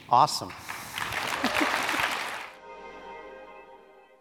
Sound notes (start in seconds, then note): 0.4 audience applauds; 2.6 light music